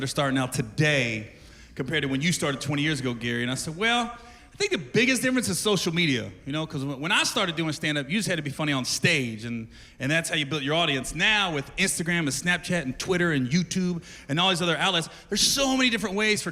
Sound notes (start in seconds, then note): none